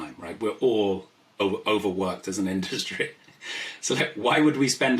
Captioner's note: laughs